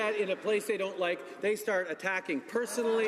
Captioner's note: speaking French